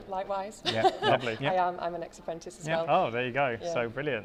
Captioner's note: laughs